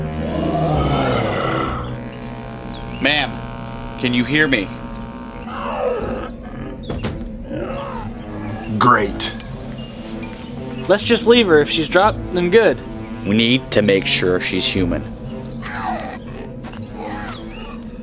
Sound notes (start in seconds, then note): 0.4 growling; 5.5 low growling